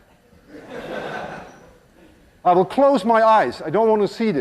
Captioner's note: laughter